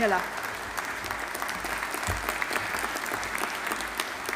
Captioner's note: audience applauding